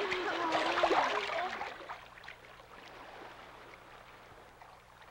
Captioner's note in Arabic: حفيف الماء